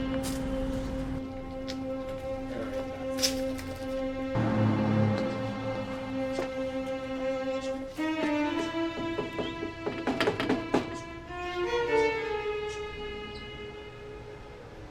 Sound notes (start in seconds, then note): 0.3 uptempo mellow music; 8.5 gently knocking on door